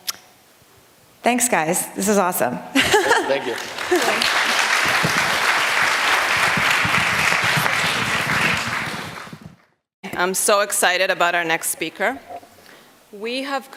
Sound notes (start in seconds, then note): 2.7 laughter; 7.2 applause